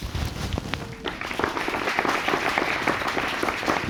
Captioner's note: audience applauding